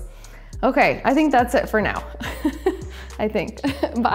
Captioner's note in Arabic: يضحك